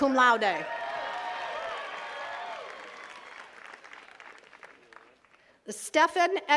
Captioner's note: attendees cheering and clapping